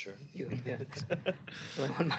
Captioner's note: laughs